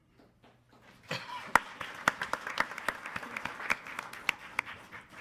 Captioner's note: attendees applauding